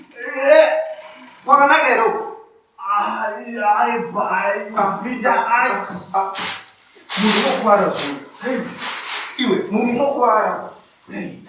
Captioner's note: groaning in pain